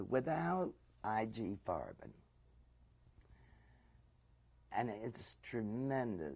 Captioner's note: pauses for 3 seconds